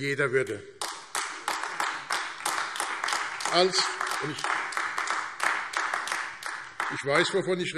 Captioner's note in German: Beifall AfD